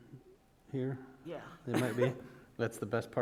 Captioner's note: chuckle